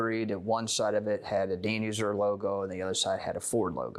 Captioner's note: none